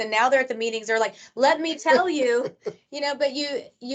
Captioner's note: laughing